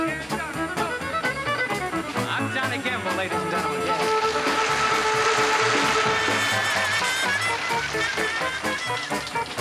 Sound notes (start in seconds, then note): 3.8 audience applauding